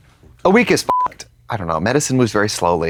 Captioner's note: beep